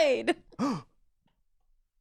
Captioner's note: laughs; gasps